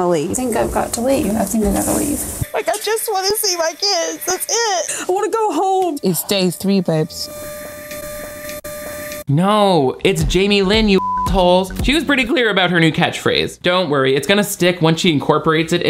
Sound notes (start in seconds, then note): 10.7 beep